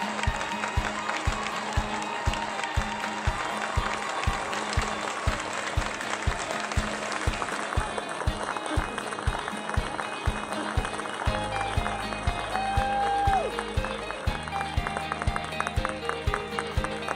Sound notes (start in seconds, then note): 2.5 applause